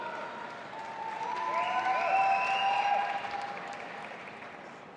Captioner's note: audience applauding